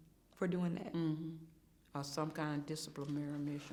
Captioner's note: hums in agreement